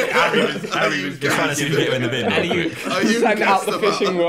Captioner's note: Sidemen chattering; laughing